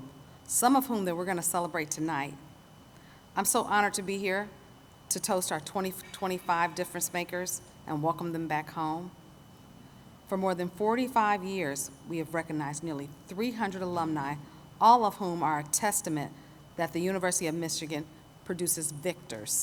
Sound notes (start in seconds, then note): none